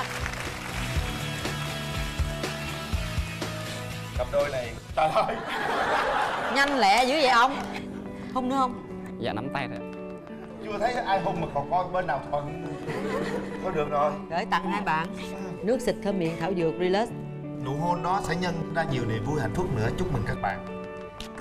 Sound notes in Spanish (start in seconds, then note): 0.2 música alegre; 5.0 risas